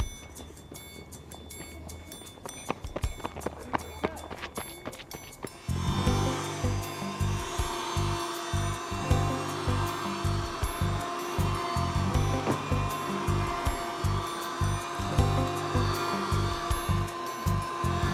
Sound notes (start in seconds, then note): 0.1 suspenseful music; 6.2 upbeat music; 6.2 vacuum whirring